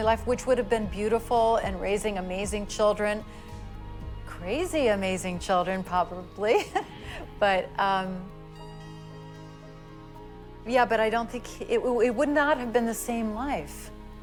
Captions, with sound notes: which would've been beautiful, and raising amazing children. Crazy amazing children, probably. [chuckles] But, um... Yeah, but I don't think... it, it would not have been the same life.